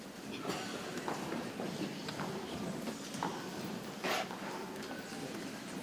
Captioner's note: people chattering softly